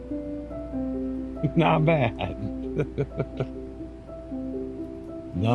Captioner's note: laughter